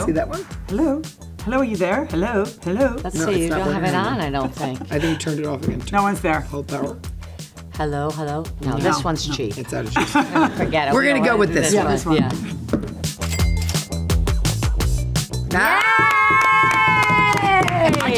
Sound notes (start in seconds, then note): 9.9 Kelly laughs; 13.3 cash register dings; 15.5 all cheering